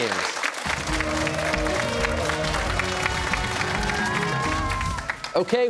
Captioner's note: cheers and applause